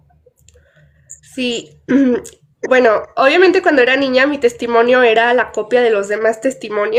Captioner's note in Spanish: carraspeo